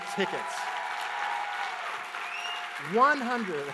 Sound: audience applauds

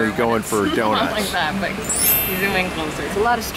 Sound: cheery chiming

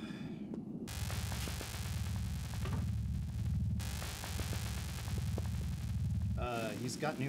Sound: deep mechanical pulsing, electric arcing

